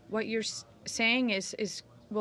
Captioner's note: speaking French